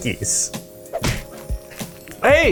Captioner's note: Twinkie smashing